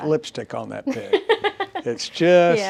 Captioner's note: laughs